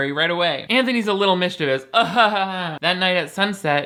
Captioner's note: laughs